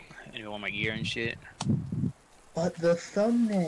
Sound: heavy breathing

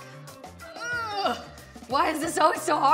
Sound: grunting

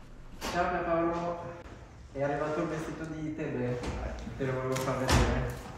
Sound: man speaking foreign language

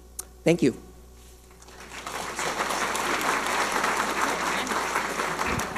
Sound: audience applauding

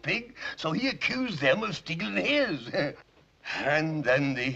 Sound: laughing

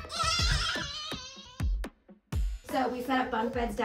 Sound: children screaming

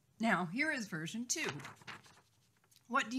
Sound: paper rustling

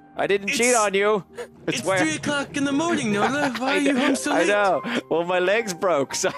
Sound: laughter

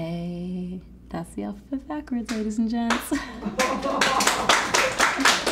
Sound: laughs

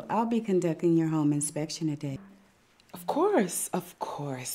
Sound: none

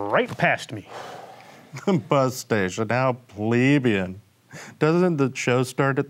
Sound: sighs

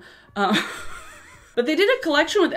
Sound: laughs

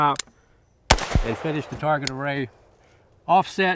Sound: rifle fires

